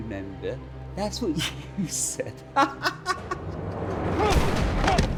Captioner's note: laughs